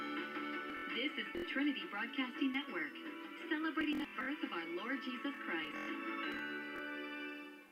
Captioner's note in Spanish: en televisión